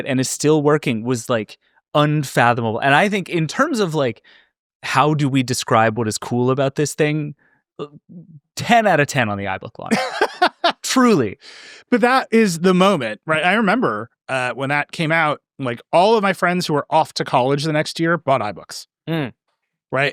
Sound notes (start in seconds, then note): 9.8 laughing